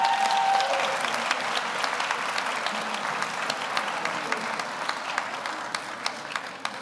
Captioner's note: audience cheers; audience applauds